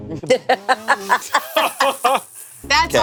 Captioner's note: laughs